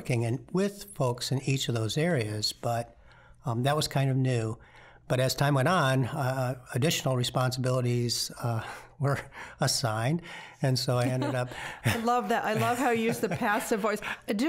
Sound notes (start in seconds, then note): 11.0 both laughing